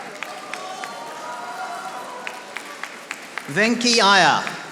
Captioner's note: audience applauding